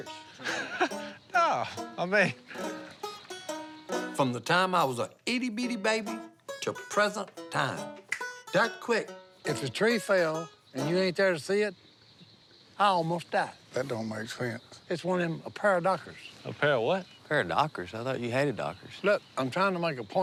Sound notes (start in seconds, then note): 0.0 chuckles; 7.2 finger snap